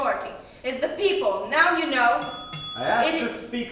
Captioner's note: bell rings